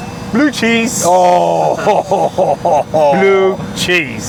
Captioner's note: exclaiming